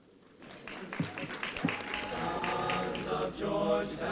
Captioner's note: applause